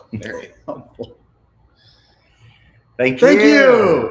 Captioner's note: both laughs